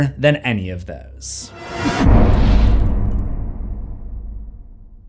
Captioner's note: impact